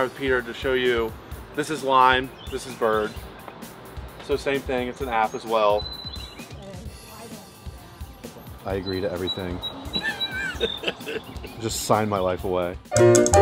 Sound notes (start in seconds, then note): 9.9 laughs; 13.0 vaudeville Music